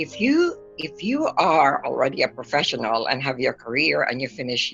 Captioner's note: none